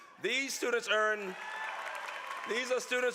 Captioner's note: applause